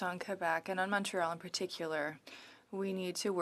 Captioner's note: speaking French